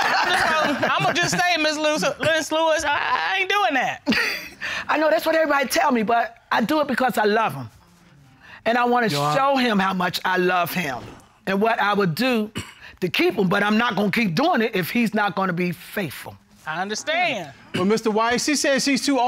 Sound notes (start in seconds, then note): 3.7 chuckles